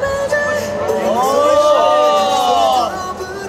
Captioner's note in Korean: 와아